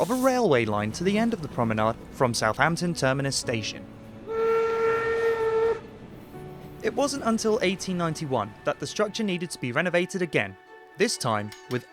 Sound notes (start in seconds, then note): 4.7 whistle